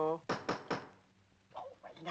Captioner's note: door knocks